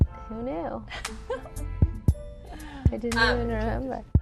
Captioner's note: Kourtney laughs